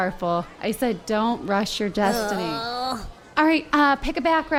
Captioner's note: groans